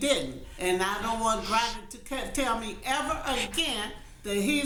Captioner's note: sobbing